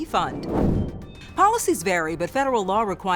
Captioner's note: swooshing